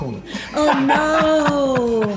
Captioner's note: laughter